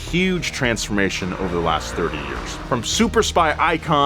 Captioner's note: tires whirring